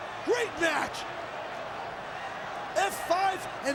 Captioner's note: audience cheering and clapping